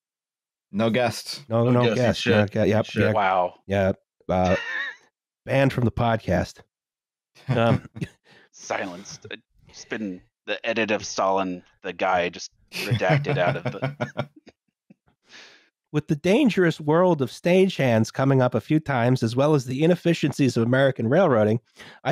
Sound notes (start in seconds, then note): 12.7 chuckles